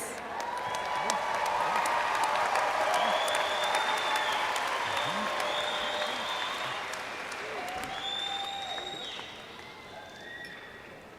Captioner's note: cheers/applause